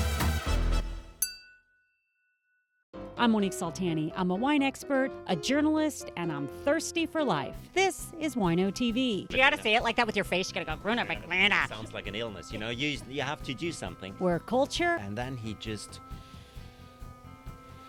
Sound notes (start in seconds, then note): 1.2 glasses clinking